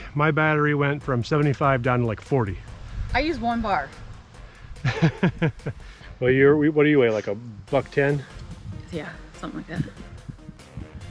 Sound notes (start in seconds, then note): 4.8 laughing